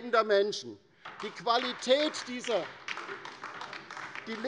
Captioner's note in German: Beifall bei der LINKEN